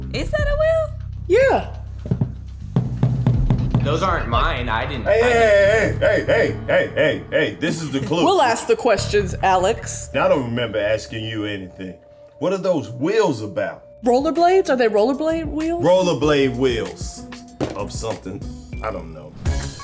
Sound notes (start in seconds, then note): 2.6 knocking